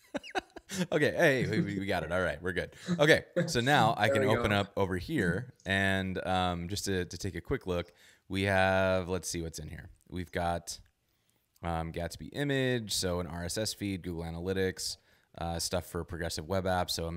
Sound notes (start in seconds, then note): 0.0 laughs